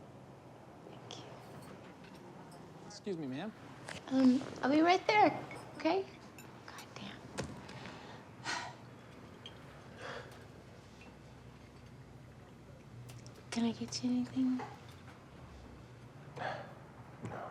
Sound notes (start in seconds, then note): 8.4 sighs